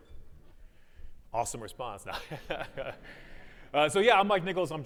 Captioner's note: laughs